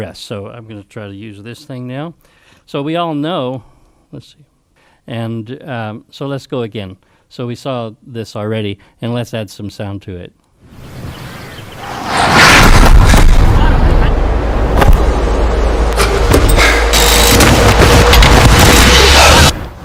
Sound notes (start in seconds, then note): 10.8 birds chirping; 11.6 intense movement sounds